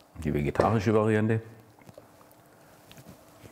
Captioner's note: none